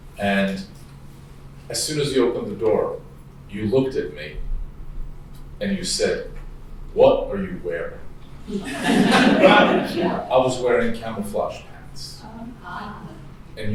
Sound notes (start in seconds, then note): 8.5 laughing